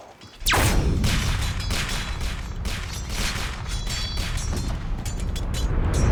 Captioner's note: video game Gunfire and Sword Clanging